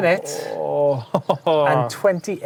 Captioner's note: groans and laughs